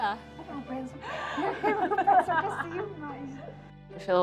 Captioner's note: laughing; in English